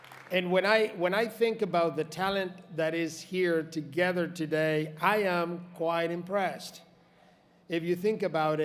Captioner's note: applause